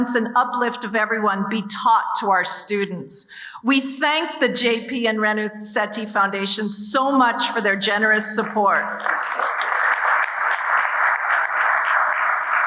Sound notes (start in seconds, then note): 8.9 audience applauding